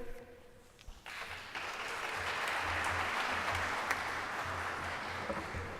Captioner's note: applause